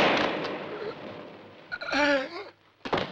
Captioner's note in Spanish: exhala